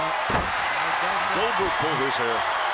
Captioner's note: crowd cheering